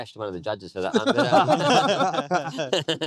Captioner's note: all laughing